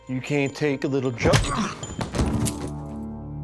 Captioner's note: bill falls to the floor; punch